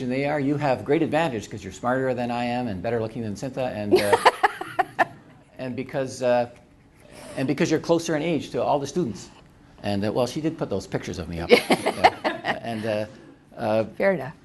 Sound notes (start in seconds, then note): 3.9 laughter